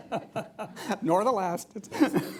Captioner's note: laughter